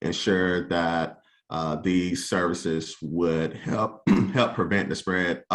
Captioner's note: clears throat